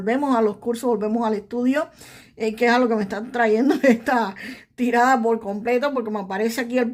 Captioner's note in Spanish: risas